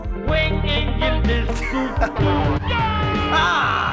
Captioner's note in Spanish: riendo